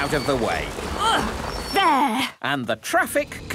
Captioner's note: grunts